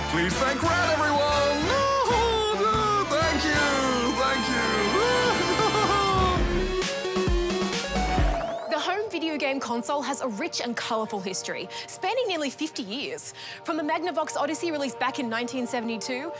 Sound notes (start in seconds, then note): 4.9 laughs